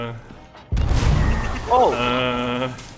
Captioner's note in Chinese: 大砲聲